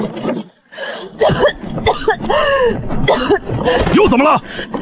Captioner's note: cough cough cough